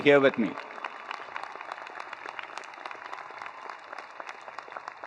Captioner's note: attendees applauding